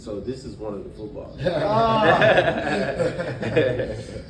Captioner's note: all laugh